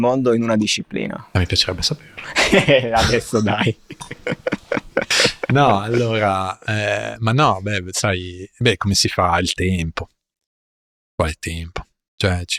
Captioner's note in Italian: risate